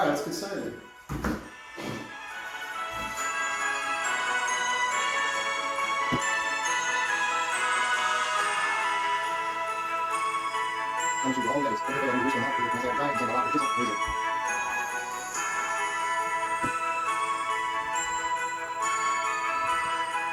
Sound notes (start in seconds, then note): 3.4 christmas music playing; 11.4 speaking at double speed; 16.6 christmas music playing